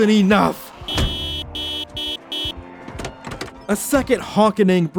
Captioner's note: car horn